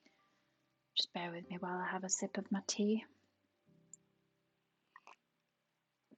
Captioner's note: slurp